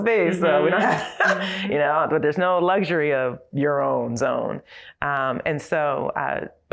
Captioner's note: laugh